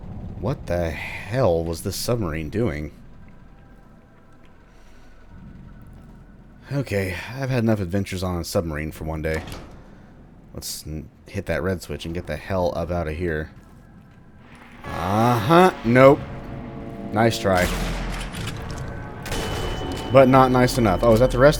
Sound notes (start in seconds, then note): 14.5 radio buzz; 18.5 bam